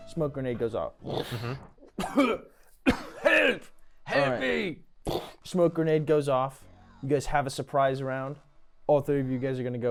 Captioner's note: coughing